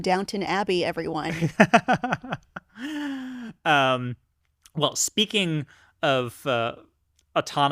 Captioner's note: laughs